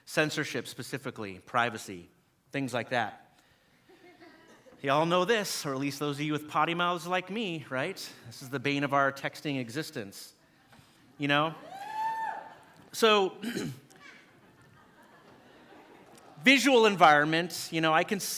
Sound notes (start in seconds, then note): 11.6 audience member woo-ing; 13.8 audience laughing